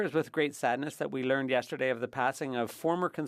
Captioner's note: speaking French